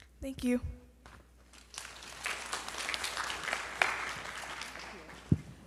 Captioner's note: audience applauds